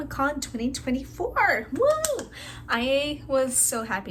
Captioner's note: clap